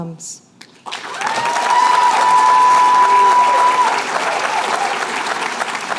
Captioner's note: cheers and applause